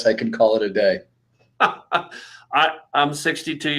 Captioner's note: laughter